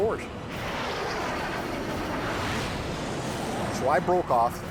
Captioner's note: jet engine noises